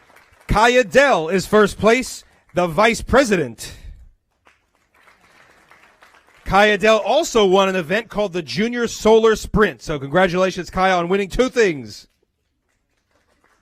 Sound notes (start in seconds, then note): 4.2 applause